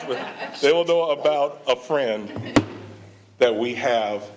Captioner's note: all laughing; slams laptop closed